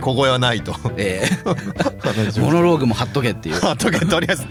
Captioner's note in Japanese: 笑い